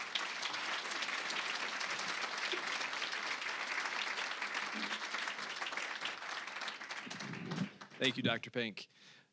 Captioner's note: applause